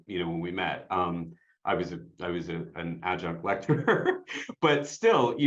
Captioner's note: laughs